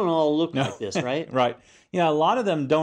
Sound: laugh

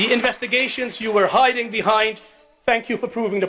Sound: applause

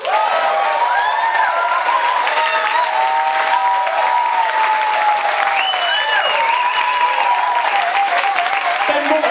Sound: applause and cheering

